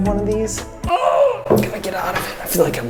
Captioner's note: grunting